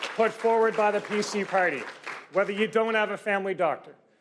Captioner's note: cheers and Applause